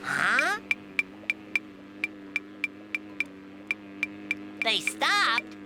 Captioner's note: knocking, light buzzing